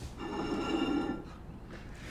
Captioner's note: plate scrapes